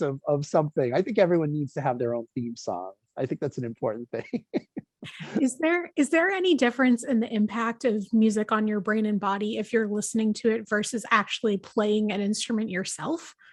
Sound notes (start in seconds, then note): 3.9 laughs